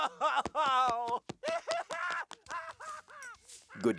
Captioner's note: crying hysterically